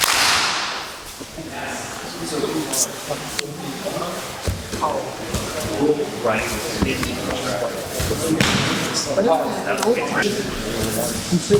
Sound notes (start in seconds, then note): 0.0 clap; 1.8 indistinct conversation